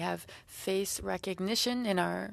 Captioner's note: speaking French